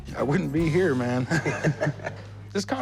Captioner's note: laughter